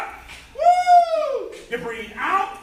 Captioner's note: shouts